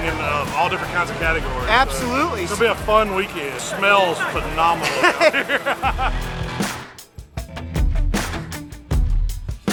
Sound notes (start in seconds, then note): 4.4 both laughing